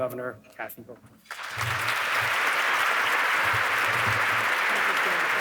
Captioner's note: audience clapping